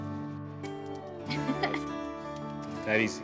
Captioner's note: Keely chuckles